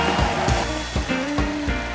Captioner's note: cheers and applause